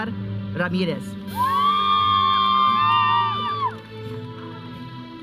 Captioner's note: audience cheering; processional music